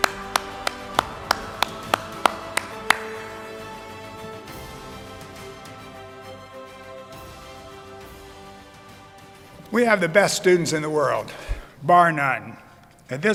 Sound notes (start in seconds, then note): 0.0 applauds; 0.6 upbeat music